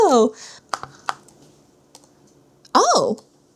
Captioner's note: eraser pops against canvas